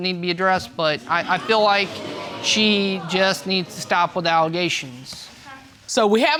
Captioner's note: audience exclaiming